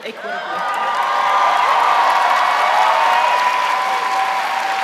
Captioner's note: audience cheering